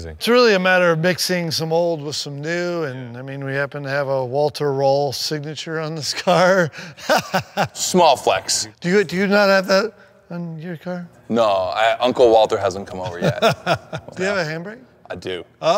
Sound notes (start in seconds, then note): 6.1 Ken laughing; 13.0 Ken laughing